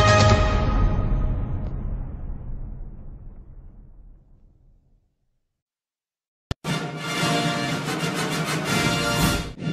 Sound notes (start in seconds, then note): 3.8 silence; 6.6 rousing fanfare plays